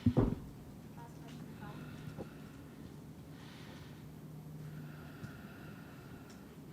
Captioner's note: speaks faintly